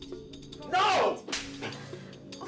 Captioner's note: slap